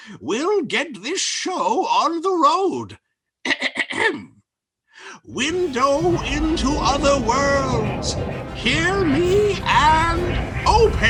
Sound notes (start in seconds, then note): 3.5 clears throat